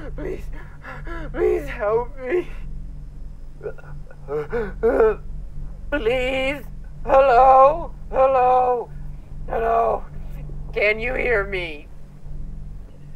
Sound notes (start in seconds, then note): 0.0 gasps; 3.7 pants and gasps